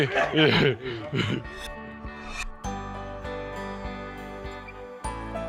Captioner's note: laughs; gentle upbeat music plays